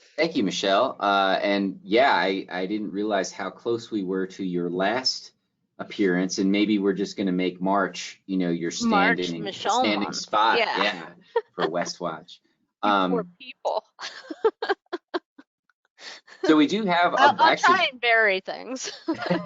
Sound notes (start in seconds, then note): 14.2 chuckling